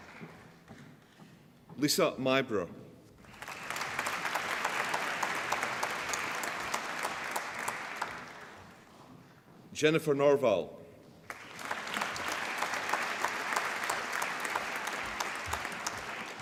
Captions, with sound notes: Lisa Myburgh (APPLAUSE) Jennifer Norval (APPLAUSE)